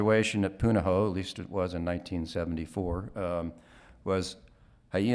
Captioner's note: speaking Hawaiian